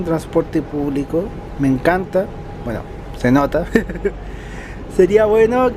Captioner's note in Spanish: risas